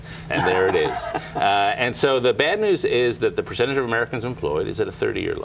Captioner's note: laughter